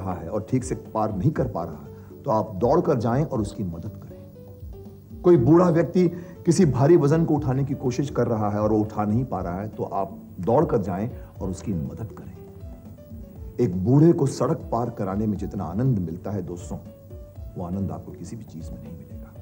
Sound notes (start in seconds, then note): none